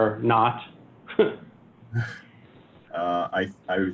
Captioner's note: chuckling